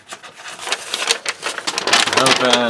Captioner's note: paper rustling